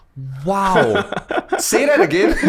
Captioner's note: laughs